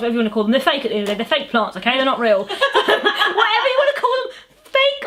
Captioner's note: laughs